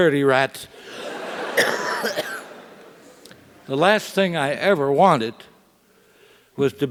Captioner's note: cough